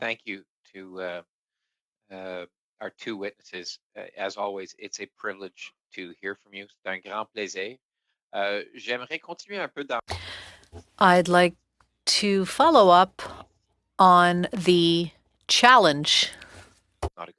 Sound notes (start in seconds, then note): 12.5 speaking french